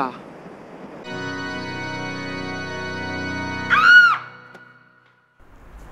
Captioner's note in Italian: urla spaventata